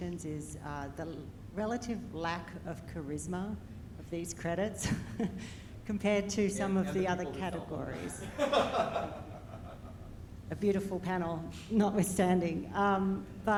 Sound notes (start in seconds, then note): 4.5 chuckles; 8.2 speaks faintly